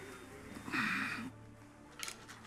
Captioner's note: Jeremy groans